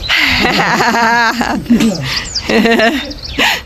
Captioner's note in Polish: śmiech